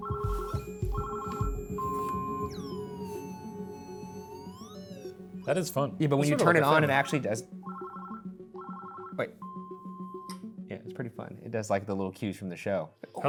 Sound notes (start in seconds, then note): 0.0 device rings and beeps; 7.5 device rings